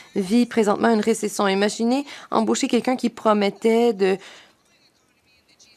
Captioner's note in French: voix de l'interprète